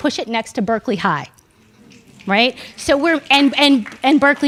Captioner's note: audience murmuring